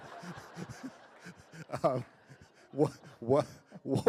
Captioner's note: laughter